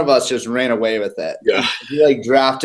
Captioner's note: laugh